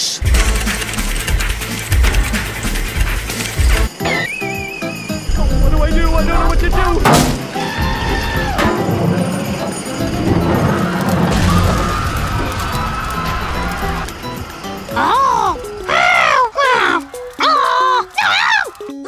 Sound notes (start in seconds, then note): 7.0 thunc; 14.8 grumbles